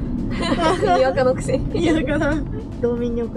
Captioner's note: laughs